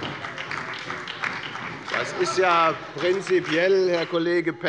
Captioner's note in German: Beifall bei der FDP und bei Abgeordneten der SPD